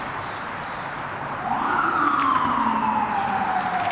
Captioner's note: police siren and traffic noises